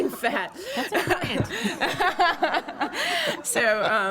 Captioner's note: laughter